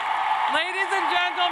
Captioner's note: cheers and applause